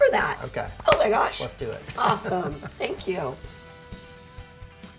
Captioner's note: laughs